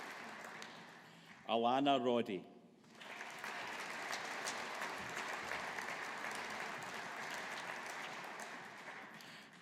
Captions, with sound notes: Alannah Roddie. (AUDIENCE APPLAUDING)